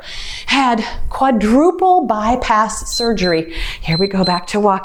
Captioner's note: timer beeps